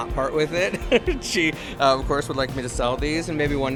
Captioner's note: chuckles